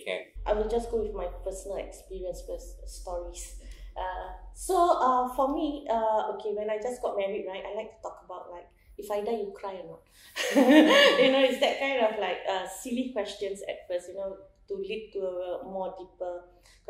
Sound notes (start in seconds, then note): 10.4 laughs